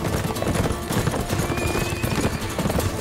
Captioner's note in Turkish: At kişniyor